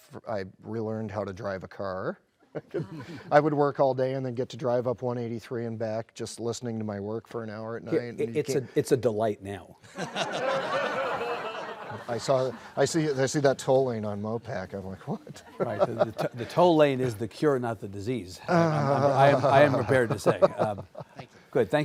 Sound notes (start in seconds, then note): 9.9 audience Laughs; 15.7 laughs